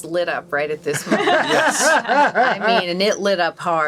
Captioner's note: all laughing